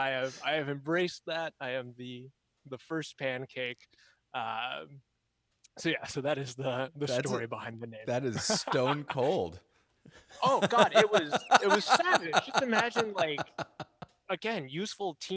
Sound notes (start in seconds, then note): 10.4 laughs